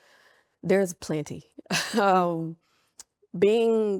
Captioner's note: laughs